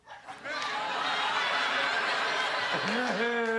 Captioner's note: crowd laughs